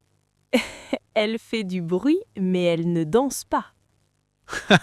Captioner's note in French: rire